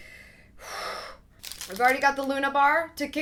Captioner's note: exhales deeply